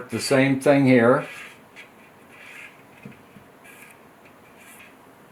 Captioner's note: marker scratching